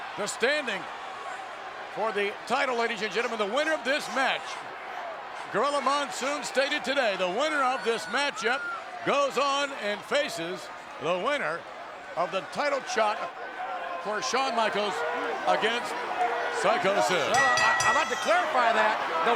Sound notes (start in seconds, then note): 17.2 bell dinging